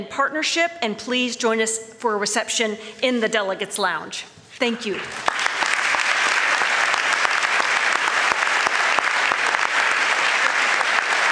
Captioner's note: applause